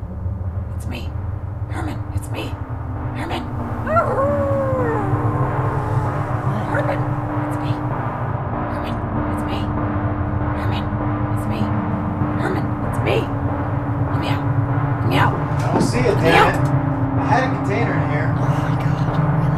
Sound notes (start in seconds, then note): 3.8 Changeling howls